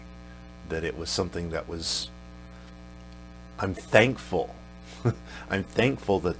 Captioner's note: chuckles